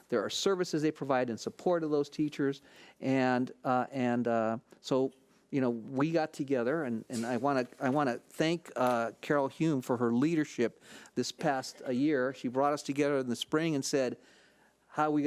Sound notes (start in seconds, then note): none